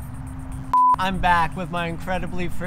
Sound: beep

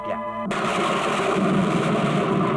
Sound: thunder crashing

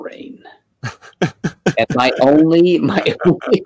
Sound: laughing

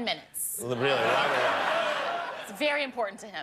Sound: laughter

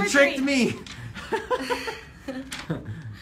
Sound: laughter

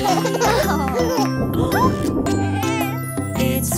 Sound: thunder booming

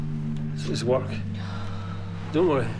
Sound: she sighs

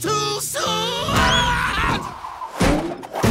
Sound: screaming

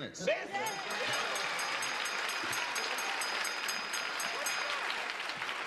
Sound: bell dings repeatedly

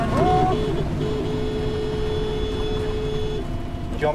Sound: honking

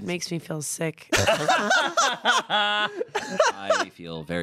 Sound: laugh

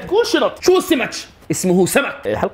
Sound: Palistinian accent

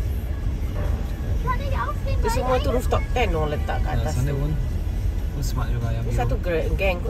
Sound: speaking German

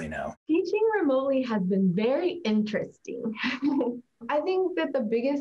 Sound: laughs

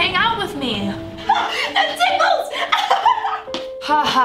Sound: laughing; gasping

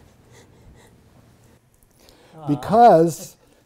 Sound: laugh

